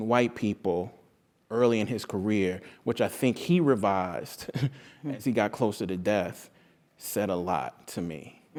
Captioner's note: laugh